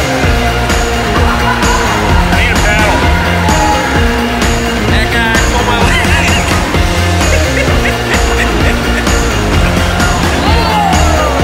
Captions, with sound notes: I need a paddle. (energetic music) Hey Guy, pull my leg. (laughs) (energetic music)